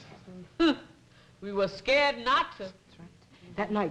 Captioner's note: laughs